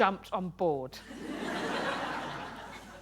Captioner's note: laughter